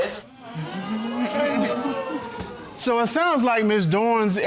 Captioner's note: audience exclaims